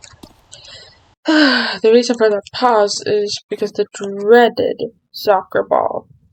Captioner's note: sigh